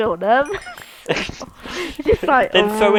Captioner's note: awkward Laughter